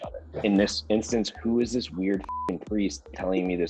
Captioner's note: beep